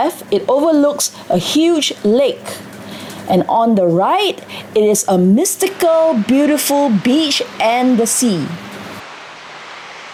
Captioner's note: sea Waves crashing